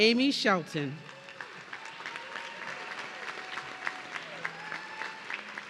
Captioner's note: audience cheering